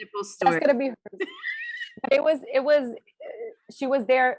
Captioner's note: laughing